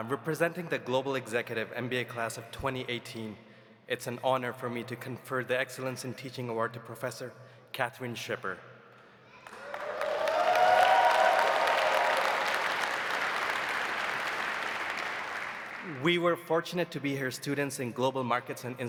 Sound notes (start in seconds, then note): 9.4 audience applauding; 9.4 audience cheering